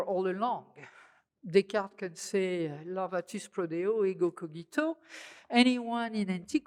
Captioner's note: speaking french